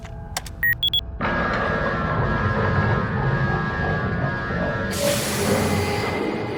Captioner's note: alarm blaring; doors whirring